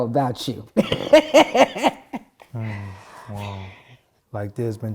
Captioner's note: laughing